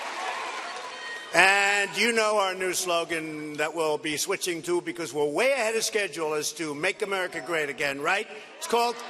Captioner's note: cheers and applause